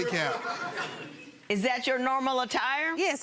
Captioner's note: audience laughs